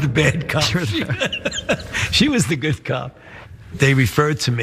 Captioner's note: laugh